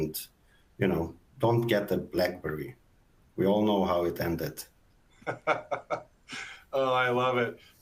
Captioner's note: laughs